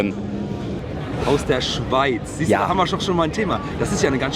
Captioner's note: voiceover